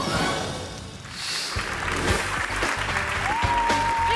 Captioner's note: bike clatters; frolicsome music; graphic whooshes; hands clapping